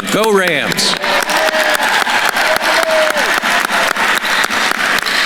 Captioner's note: attendees applauding